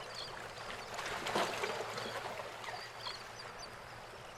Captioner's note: water lapping